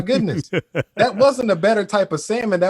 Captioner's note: laughs